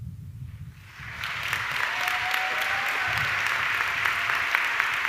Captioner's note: audience clapping